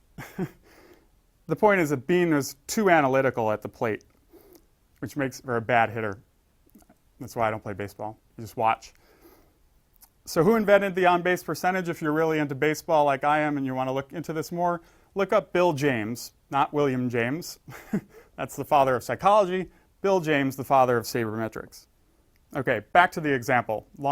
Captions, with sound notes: The point is that Beane was too analytical at the plate. Which makes for a bad hitter. That's why I don't play baseball, I just watch. So who invented the on base percentage? If you're really into baseball like I am, and you wanna look into this more. Look up Bill James, not William James. [laugh]. That's the father of psychology. Bill James, the father of sabermetrics.